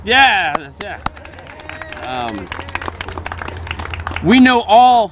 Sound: applause

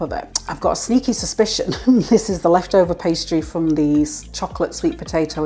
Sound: laugh

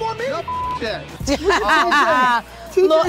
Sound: laughing

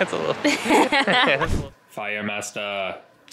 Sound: laugh

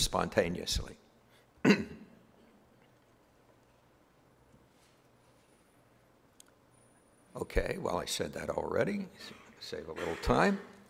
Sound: cough

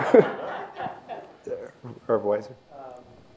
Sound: laughter

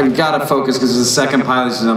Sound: none

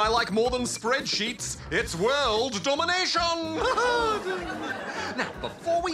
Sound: audience: nervous laugh?

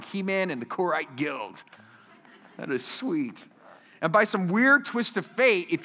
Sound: laughter

